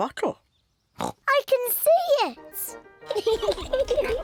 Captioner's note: oinks; both laughing